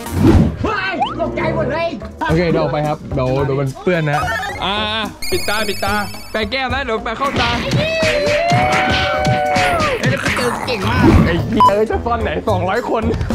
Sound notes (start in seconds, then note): 7.8 cheering